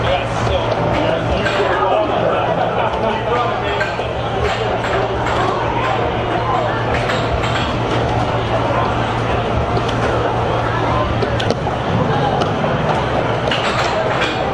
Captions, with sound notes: I got still 300k. (crowd laughing) Keep going, Dave. (air hockey puck rattling) (buttons clicking)